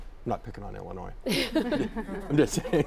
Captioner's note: all laughing